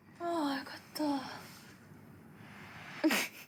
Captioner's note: speaking in foreign language